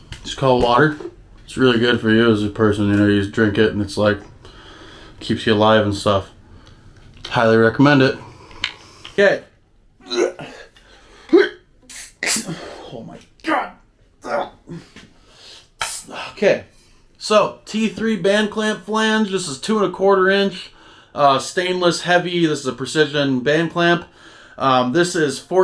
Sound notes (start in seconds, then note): 10.0 struggling noises; 14.2 more struggling noises